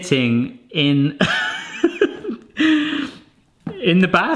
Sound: laughing

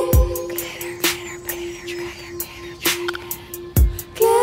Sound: whispered

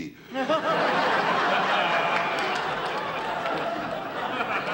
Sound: audience laughter

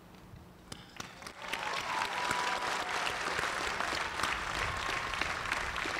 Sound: cheers and applause

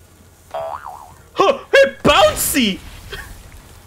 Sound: boyoyoyoing

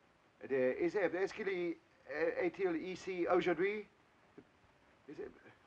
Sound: speaking in foreign language

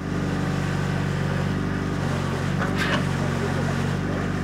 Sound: vehicle whirring

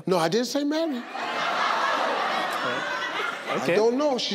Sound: audience laughing

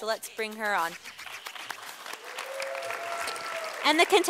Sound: sound of applause from audience

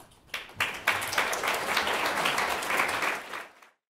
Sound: applause

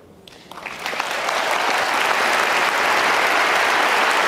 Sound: audience clapping

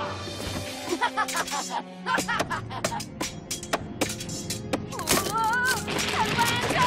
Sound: laughing

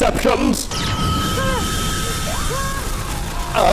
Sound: seasonal pew-pew

